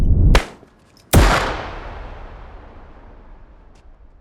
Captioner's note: balloon pops; shot firing